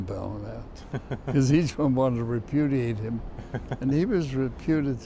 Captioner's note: laughs